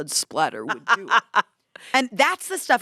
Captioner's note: laughs